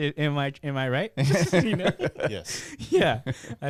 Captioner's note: laughing